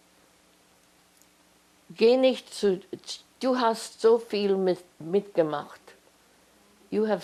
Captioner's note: german